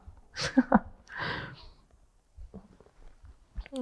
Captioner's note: chuckles